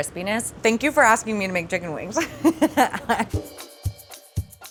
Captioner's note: laughs; soft up-tempo percussive music